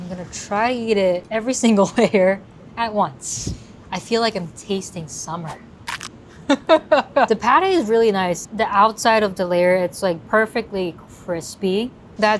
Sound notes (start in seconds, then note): 5.8 bite crunches; 6.4 laughs